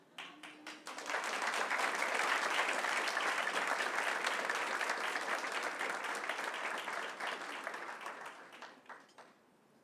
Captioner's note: applause